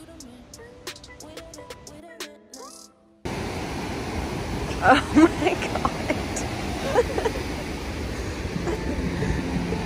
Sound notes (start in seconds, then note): 3.2 ocean roars; 6.7 laughter